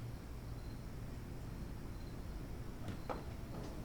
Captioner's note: none